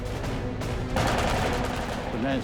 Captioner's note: gunfire